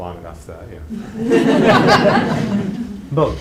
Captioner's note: laughter